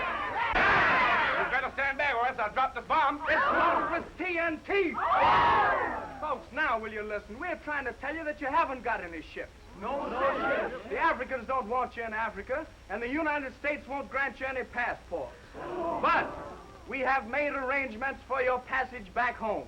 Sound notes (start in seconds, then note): 4.3 all shouting; 9.5 all chattering